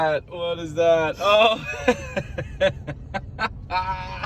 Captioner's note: laughing